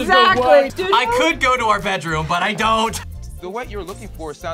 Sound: laughs

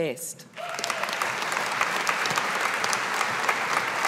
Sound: audience applauding

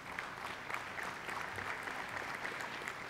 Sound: applause

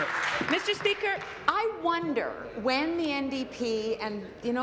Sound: applause

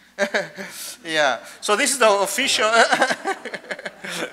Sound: laughs; laughter

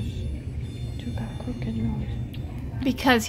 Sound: smooches

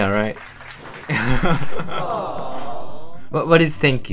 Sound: clapping

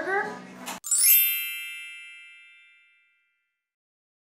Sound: magic sound effect

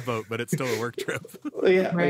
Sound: laughing

